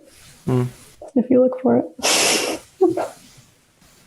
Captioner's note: laughs